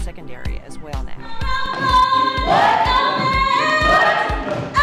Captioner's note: chants